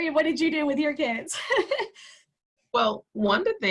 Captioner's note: laughter